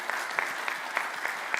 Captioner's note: applause